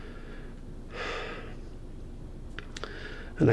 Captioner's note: sighs heavily